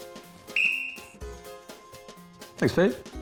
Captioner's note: blows whistle